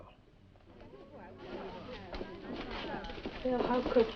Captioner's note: students chattering